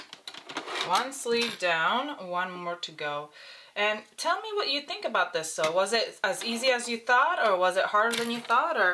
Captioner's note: none